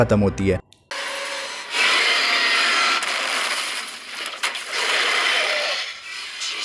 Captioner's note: growl